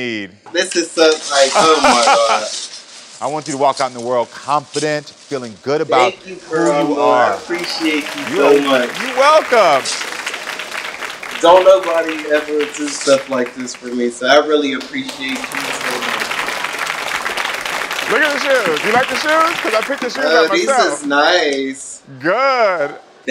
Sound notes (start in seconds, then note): 16.1 audience applauds